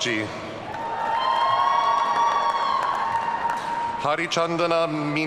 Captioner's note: audience cheering